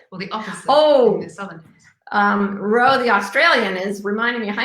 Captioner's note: murmurs